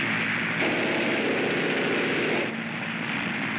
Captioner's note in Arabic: هدير الطائرة; اطلاق نار من مدفع رشاش